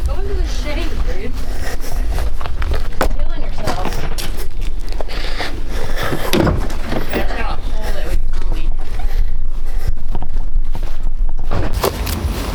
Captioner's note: people Chattering